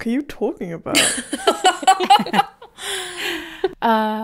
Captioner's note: laughing